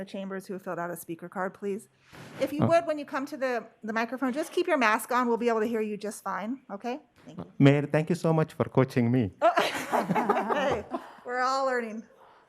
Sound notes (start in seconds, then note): 9.4 laughter